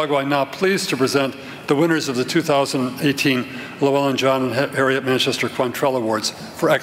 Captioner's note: none